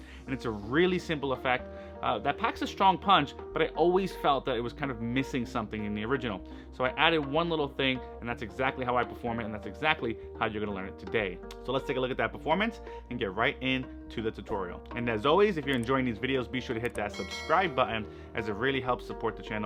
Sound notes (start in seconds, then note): 17.0 bell dinging